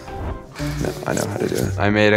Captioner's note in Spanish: Voz en off